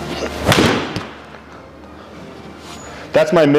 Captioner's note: club thuds